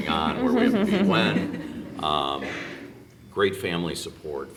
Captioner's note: laughing